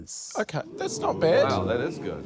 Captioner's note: audience 'ooh's